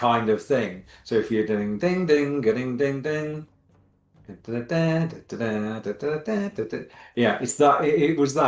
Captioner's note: mimics Indiana Jones theme